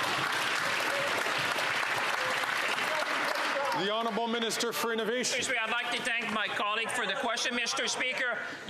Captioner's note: some Applause